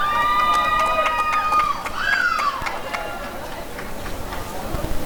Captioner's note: applause and cheering